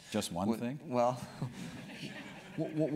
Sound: laugh

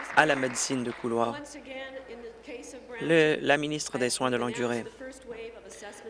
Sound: applause

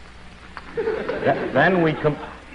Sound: audience laughs

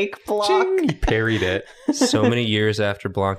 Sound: laughs

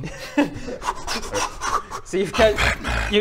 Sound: heavy breathing

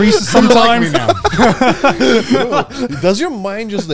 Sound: all laughing

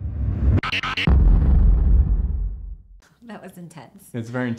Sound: explosion

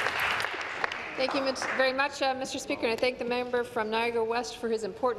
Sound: applause

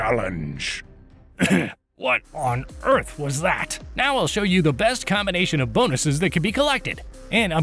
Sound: сough

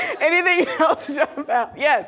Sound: laughing

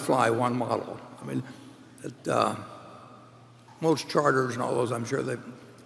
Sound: none

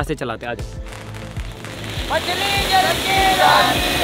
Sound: flashy Crackling sound

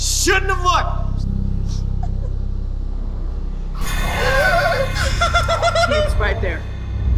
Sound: giggling nervously

